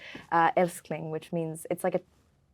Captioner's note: Lola speaking Swedish